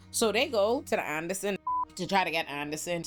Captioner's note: beep